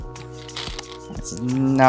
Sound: stones rattling

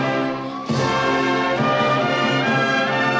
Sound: none

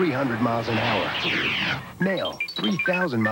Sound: computery beeps

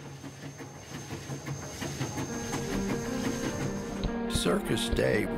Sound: train rumbling

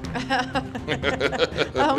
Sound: laughing

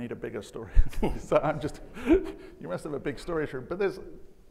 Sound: laughing

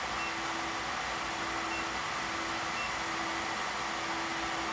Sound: machine whirring

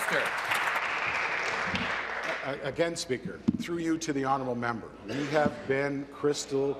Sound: applause

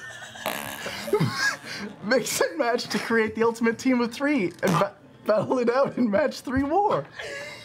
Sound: excessive fart noises; squeaky fart

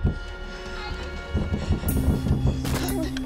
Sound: Kylie whimpering

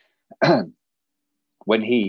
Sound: clears throat

